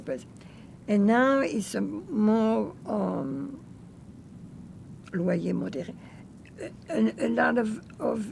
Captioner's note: french